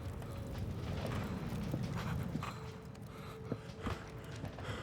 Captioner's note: heavy breathing